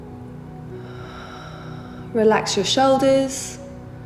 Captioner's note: heavy breathing